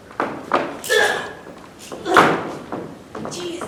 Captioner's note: barbie grunts